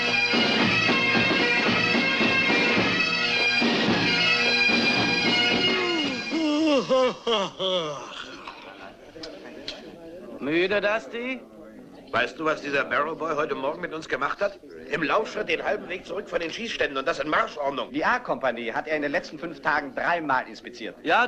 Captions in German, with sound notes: [gähnt] Müde, Dusty? Weißt du, was der Barrow-Junge uns heute Morgen angetan hat? Zurück von den Übungsplätzen in voller Marschordnung. Er hat die Kompanie A dreimal inspiziert.